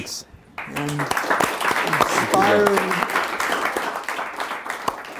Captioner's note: laughter